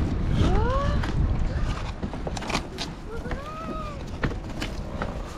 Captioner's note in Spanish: jadean